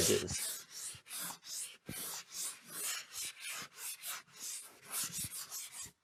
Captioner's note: sanding